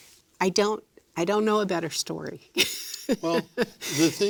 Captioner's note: laughs